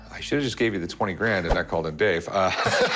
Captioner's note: chuckles